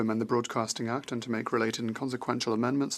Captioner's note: speaking French